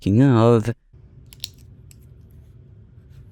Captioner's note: pen clicks